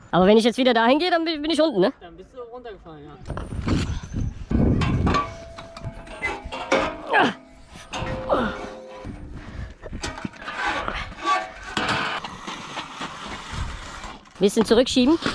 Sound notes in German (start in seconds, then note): 4.6 klack; 4.7 kling